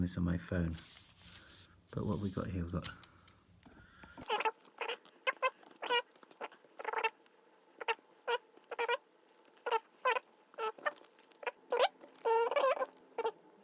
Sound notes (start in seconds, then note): 5.1 squeaking